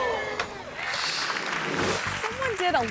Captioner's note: audience clapping